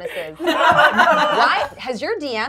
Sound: gamers laughing

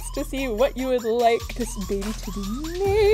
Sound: none

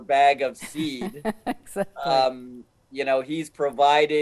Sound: laughing

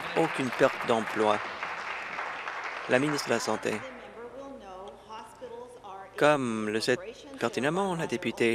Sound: applause

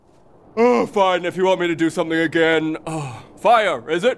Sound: sigh

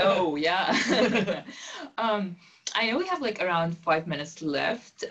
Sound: laugh

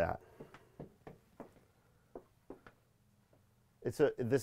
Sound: shoes clatter

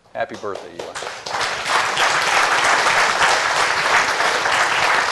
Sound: applause

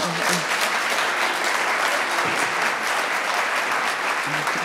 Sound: audience applauds

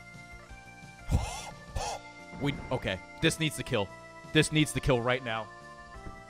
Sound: gasps

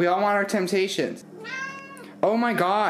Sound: meows

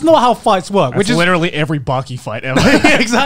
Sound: laughing

